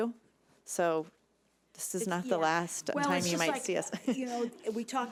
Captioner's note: chuckles